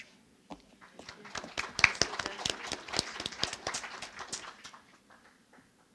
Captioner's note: audience applauding